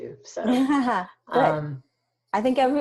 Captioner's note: laughs